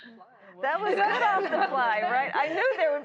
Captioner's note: laughter